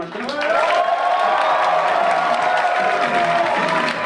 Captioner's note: audience cheer